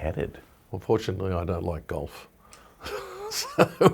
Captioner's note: laughing